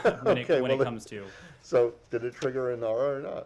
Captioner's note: laughter